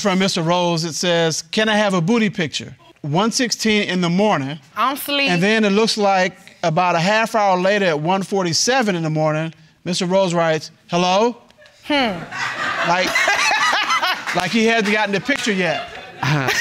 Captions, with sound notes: Alright, this is from Mr. Rose it says, Can I have a booty picture? 1:16 in the morning. And then it looks like, About half hour later 1:47 in the morning Mr. Rose writes, hello? (LAUGHING) Like he hadn't got the picture yet.